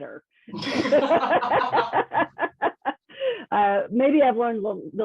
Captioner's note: both laughing